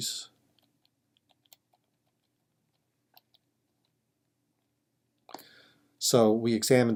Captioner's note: typing